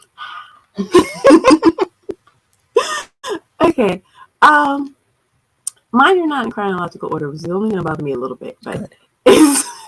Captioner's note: laughs